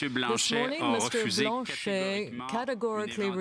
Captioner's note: speaking French